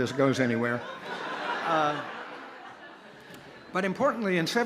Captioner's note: laughter